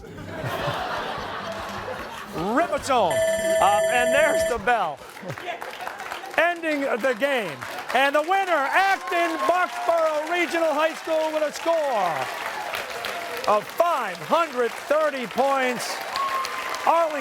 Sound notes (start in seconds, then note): 1.6 laughter; 4.9 timer sounding